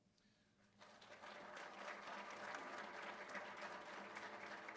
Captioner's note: applause